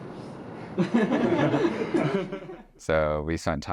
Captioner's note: all laughing